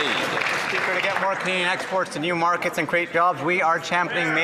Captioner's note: some Applause